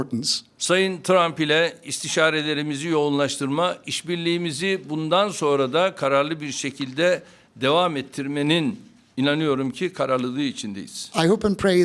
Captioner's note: speaking Turkish